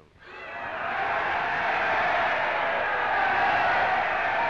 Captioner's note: crowd cheering